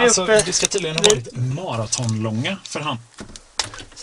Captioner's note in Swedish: Radion låter